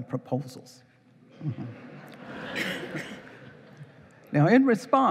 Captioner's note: laughing